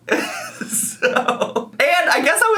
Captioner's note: laughs